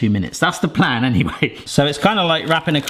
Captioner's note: chuckles